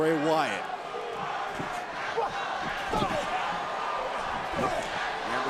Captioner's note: crowd chanting